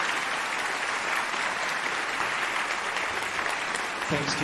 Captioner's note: alumni cheering and applauding